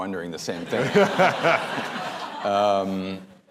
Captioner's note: laughter